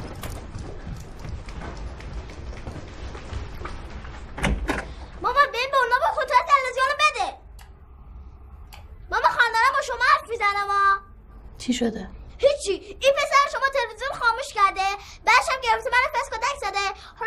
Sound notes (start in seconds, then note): 4.2 door opening